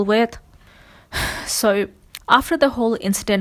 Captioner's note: sighs